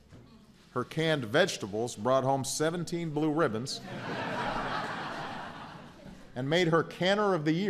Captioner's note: laughter